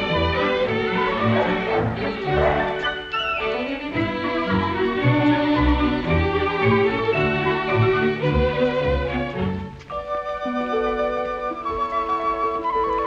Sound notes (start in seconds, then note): 1.2 dog barking